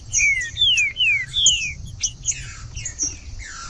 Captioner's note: trinca ferro cantando